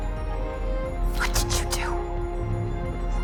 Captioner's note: whispering